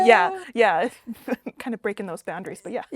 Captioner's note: laughing